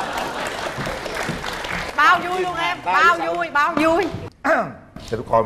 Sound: applause

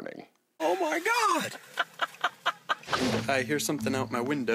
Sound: laughs

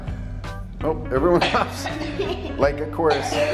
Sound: coughs

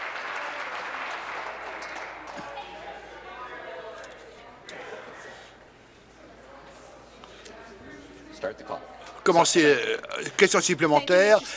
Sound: applause

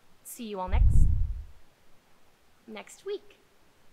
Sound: whoosh

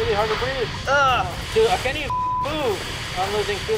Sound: beep

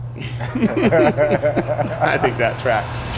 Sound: crew laughs

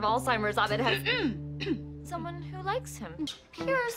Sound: SHIRLEY coughs

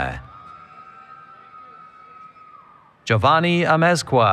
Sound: cheering

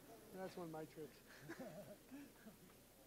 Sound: laughs

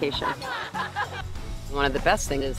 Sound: laughing

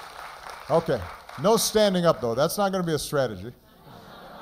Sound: applause

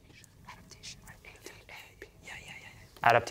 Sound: whispering

